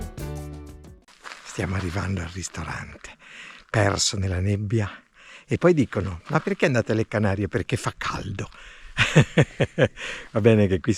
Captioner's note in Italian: Risate